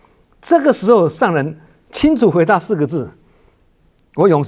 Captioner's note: in chinese